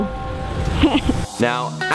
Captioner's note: laughs